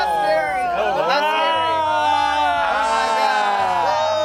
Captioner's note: cast exclaims; yells; cast exclaims